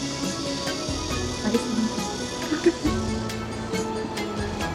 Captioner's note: laughter